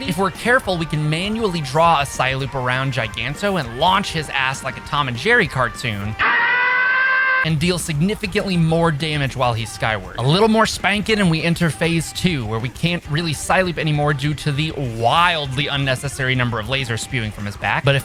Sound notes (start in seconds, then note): 6.2 scream